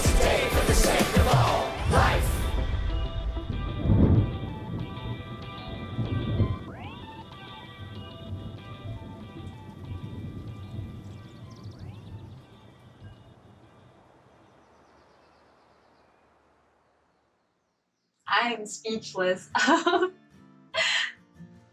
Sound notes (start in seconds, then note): 3.8 thunder; 11.0 birds chirping